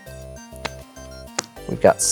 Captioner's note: card slaps